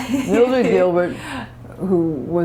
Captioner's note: laughter